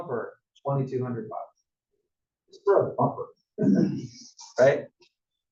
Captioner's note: cough